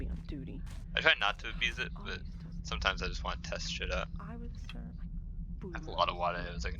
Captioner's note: chatting, complaining; chatting, complaining